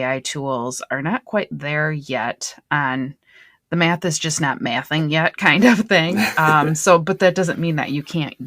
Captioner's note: laughter